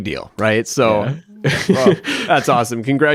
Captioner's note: laughs